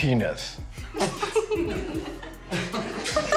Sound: laughing

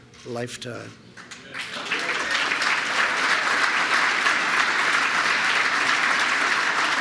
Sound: applause

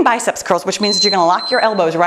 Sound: timer beeps

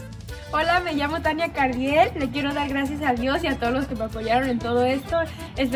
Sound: speaks in foreign language

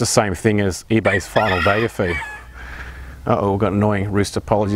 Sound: rooster crowing

